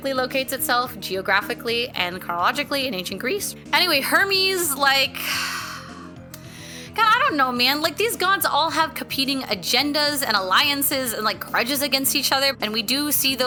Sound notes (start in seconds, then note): 5.2 deep sigh